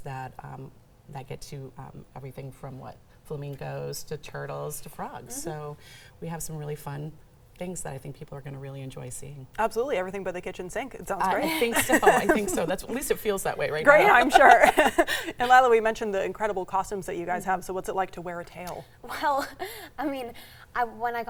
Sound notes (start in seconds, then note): 11.4 laughing; 13.9 laughing